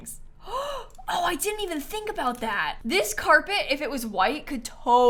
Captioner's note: gasps